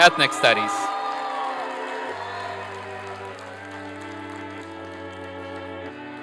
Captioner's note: applause and cheering